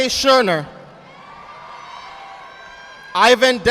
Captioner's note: audience applauding